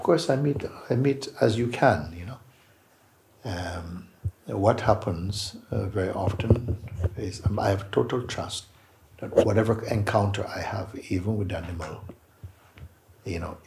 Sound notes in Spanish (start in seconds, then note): none